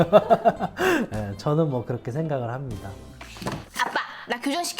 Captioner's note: laughter